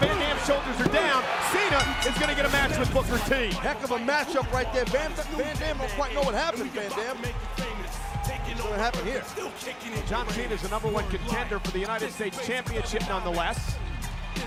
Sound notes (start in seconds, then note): 1.7 bell dinging